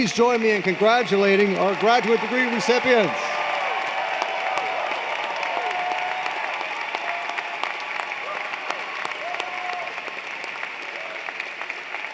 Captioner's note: cheers and Applause